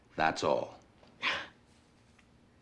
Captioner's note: scoffs